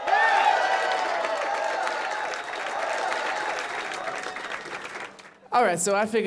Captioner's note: crowd cheering